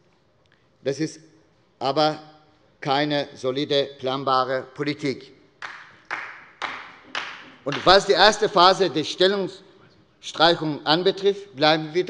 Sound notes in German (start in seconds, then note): 3.6 Beifall bei der SPD